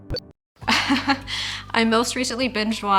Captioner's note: laughs